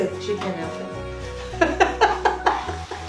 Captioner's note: laughter